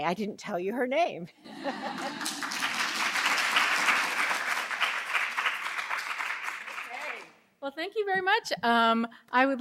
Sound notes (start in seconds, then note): 1.4 laughter; 1.7 applause